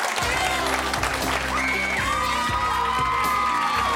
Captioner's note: cheering